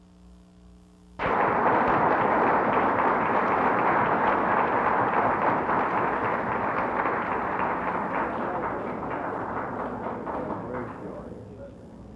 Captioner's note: applause